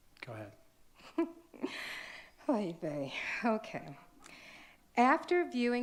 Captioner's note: laughs